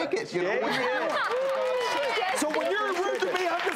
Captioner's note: applause